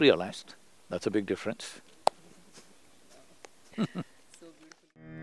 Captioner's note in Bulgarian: смях